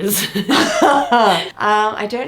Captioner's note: laughing